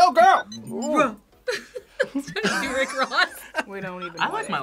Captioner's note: React laughs; laughs